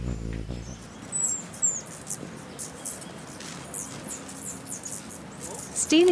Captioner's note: bird chirping